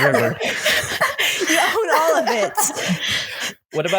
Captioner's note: laughter